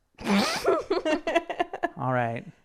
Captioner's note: laughing